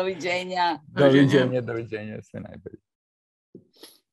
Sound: non-english speech; non-english speech

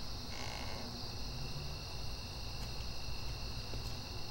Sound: door creaks

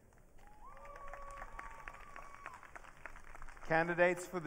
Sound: audience cheering

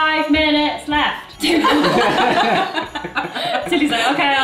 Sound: laughter

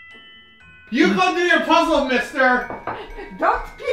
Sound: scolding

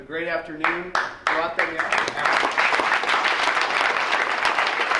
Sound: crowd applauds

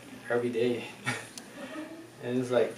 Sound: laughs

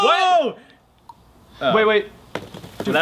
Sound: Mentos plops into soda

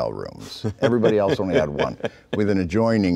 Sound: laughing

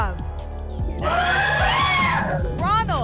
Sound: cheering

